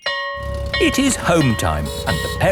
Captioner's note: school bell ringing